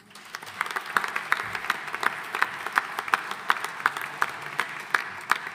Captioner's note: audience applauding